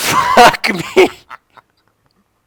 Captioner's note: laughter